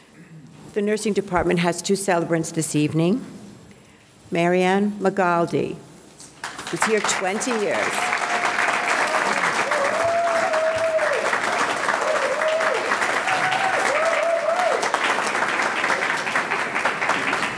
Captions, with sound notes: The nursing department has two celebrants this evening. MaryAnn Magaldi, is here 20 years. (audience clapping) (audience cheering)